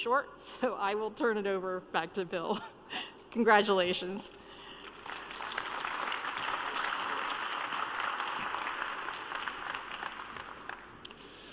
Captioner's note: applause